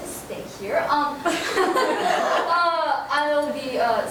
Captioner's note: girls laughing